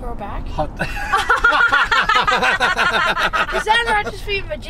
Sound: laughing

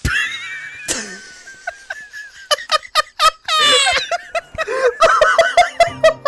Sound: laughter

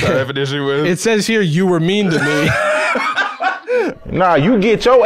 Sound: laughs

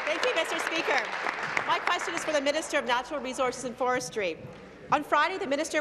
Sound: applause; cheers

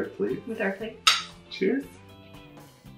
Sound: plates click

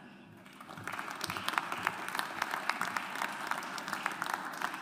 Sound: audience applauds

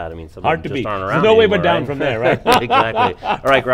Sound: laughing

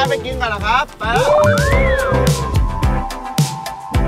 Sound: cheering continues; joyful music playing

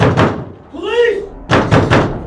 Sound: banging

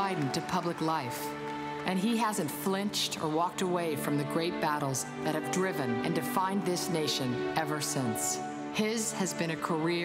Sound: applause

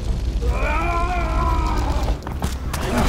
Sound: screaming

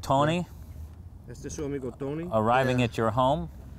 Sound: non-english speech

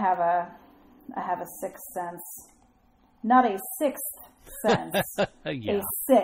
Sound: DJ laughs

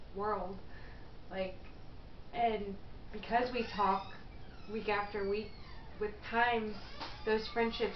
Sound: creeking of door in background

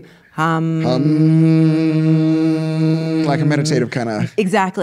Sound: humming

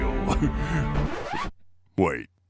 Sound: record scratch

